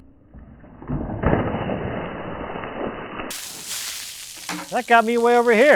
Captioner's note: water splashes